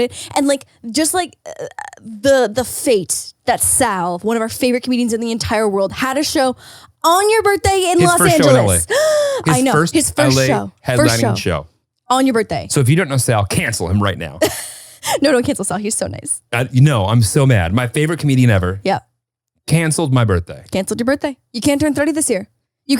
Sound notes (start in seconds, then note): 14.4 laughs